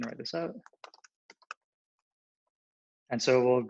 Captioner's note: typing